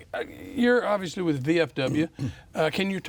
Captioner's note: clears his throat